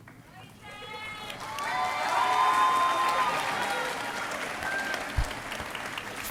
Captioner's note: crowd cheering and applauding